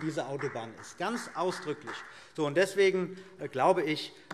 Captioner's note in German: Vereinzelter Beifall CDU